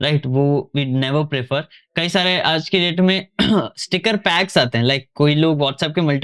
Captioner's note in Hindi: गला साफ़ करने की आवाज़